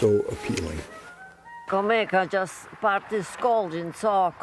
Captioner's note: speaking in Walloon